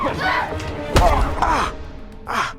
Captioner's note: thud